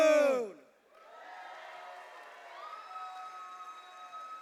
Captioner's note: cheers and applause